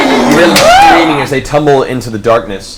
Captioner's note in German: Alle jubeln